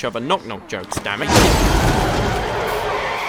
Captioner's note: slam; tyres screech